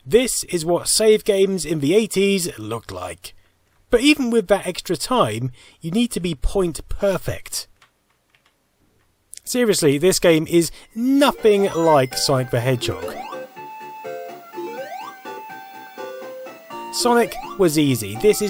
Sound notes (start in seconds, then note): 14.0 Sonic sounds